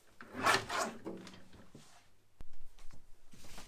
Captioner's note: blade cutting